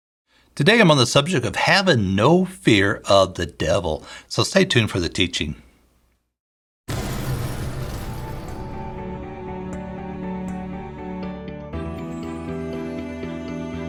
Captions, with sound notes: - Today I'm on the subject of having no fear of the devil. So stay tuned for the teaching. (fire roaring) (gentle music)